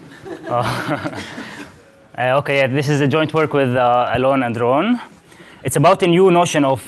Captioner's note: laughs